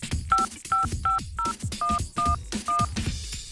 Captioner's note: low- and high-pitched beeping